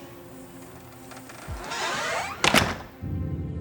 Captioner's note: door creaking and latching